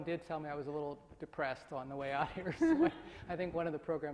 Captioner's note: laughs